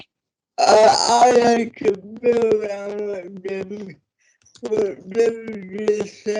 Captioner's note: audio distorts